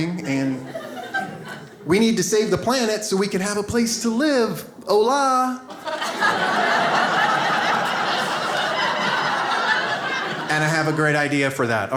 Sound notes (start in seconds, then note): 5.6 audience laughs